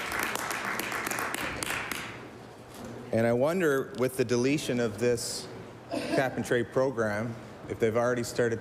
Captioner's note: applause